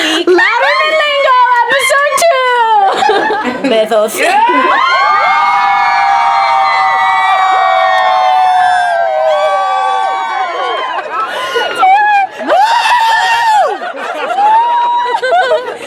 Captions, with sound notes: new word for the week! --LOUDERMAN LINGO EPISODE TWO --Bathos. --[cheers]